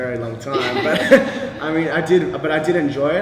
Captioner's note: laughing